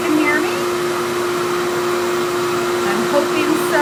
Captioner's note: hair dryer whirs continues